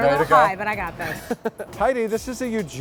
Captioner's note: laughs